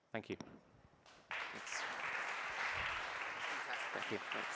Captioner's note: applause